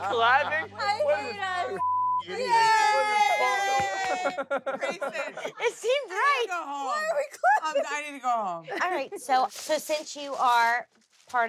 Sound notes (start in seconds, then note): 0.0 cast laughs; 3.5 laughs